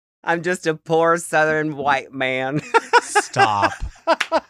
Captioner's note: chuckles